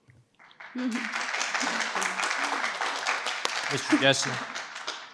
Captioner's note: participants clap